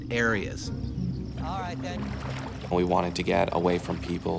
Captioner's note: voiceover